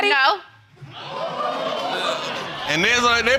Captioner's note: audience gasping